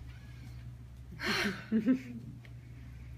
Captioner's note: sighs